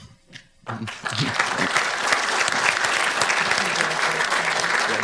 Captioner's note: audience applauding